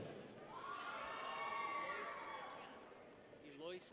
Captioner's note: people cheer